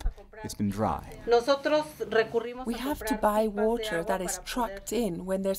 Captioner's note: through translator